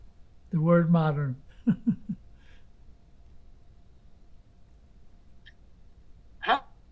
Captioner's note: laughing